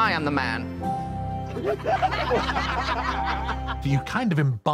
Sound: laughter

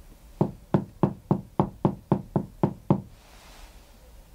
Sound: knocks on ceiling

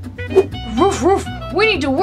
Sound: Chase barking

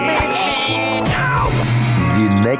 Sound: screaming

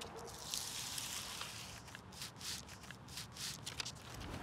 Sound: paper grinding

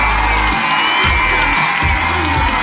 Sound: crowd cheering

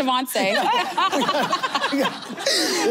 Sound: laughter

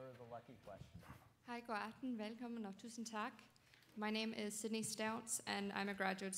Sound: speaking dutch

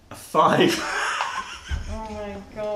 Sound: laughter

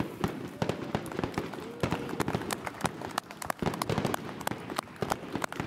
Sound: audience applauding

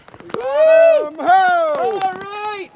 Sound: both whooping

